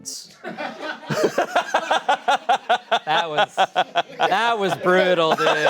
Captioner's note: audience members and laughing